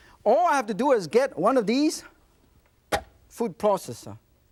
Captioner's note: none